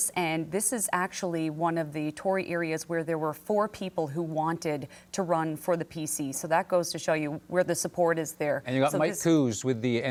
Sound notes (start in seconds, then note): none